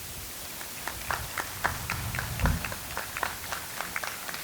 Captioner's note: audience applauds